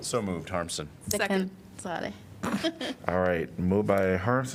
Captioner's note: laughter